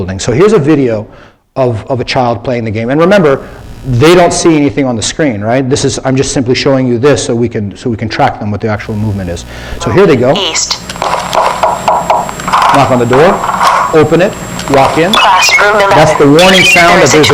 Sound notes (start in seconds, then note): 11.4 electronic sound effects